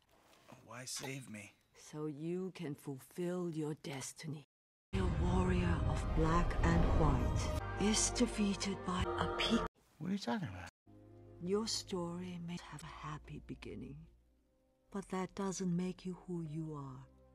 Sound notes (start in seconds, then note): none